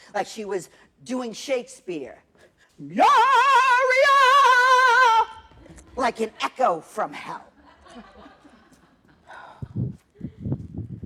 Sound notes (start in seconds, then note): 7.5 laughter